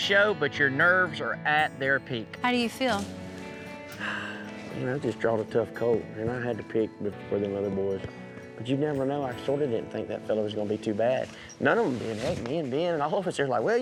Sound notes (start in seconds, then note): 3.6 sighs